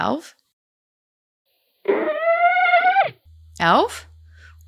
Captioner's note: grunts